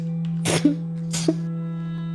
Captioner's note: laugh